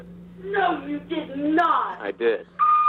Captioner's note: mother On Phone Speaker